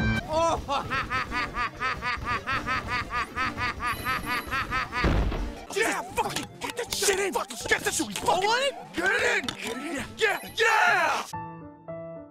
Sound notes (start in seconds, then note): 0.2 Luigi Laughs Maniacally; 5.8 gaming Sounds, idk